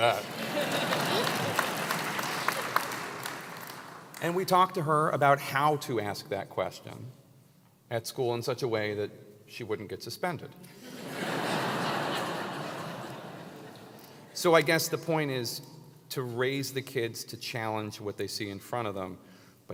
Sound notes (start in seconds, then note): 0.2 applause; 11.4 laugh